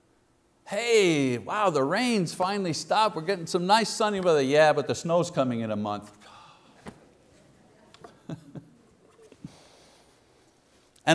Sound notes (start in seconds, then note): 6.2 sighing; 8.0 laughing